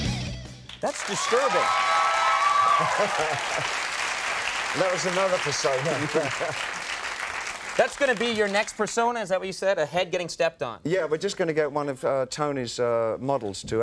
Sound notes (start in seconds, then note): 0.7 audience cheers